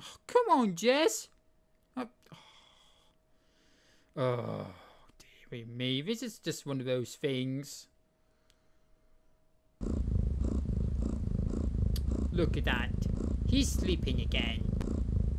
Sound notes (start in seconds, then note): 9.8 jess snoring sound